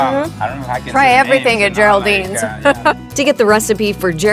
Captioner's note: chuckles